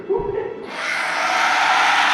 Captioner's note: clown screech